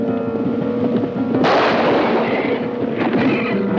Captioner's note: gunshot